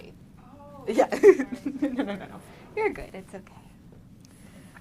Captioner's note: laughing